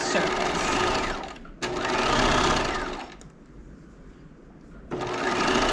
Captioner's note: sewing machine whirling